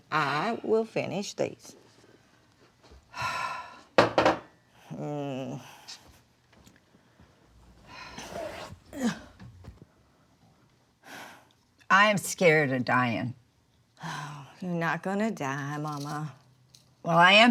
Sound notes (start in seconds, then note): 3.2 Mama exhales; 8.9 Dory grunts; 8.9 Mama exhales; 11.3 Dory exhales